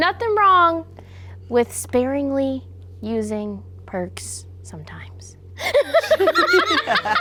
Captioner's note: laughs